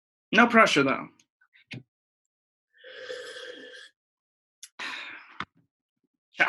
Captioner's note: obnoxious sipping noises